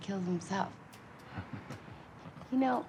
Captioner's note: Jim laughs